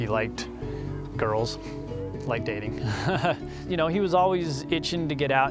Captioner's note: chuckles